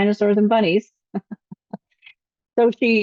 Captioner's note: chuckles